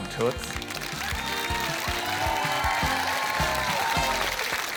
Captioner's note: applause